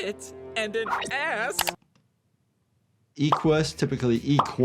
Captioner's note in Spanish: clics de audio